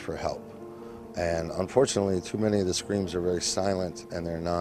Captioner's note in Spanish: hablan en ingles